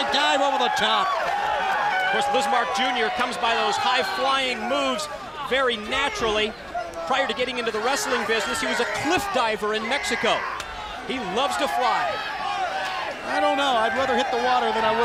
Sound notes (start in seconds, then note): 12.4 crowd chatter